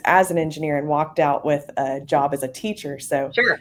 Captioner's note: laughs